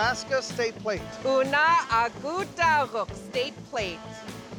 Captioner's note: speaking yupik